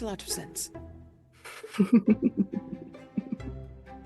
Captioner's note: laughs